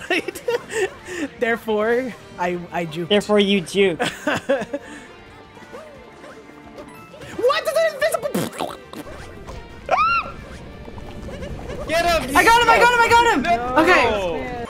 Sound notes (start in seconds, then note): 0.0 laughs; 4.0 laughs; 8.2 squish noise; 9.9 high pitched yell